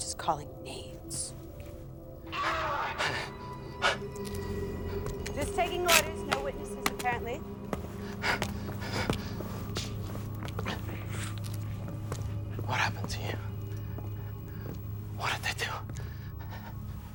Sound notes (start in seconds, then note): 2.3 person screaming; 9.6 intense music continues